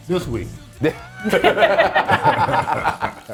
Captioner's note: laugh